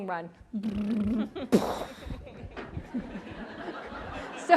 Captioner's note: imitates bomb noises; audience laughs